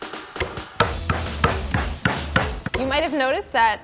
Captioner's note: bashes